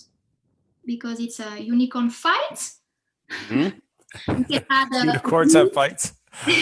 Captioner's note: laughs; chuckles